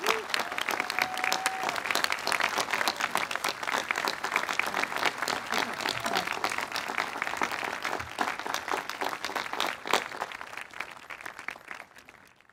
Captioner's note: applause